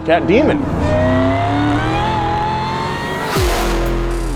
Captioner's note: car zooming